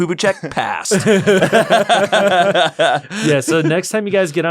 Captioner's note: laughter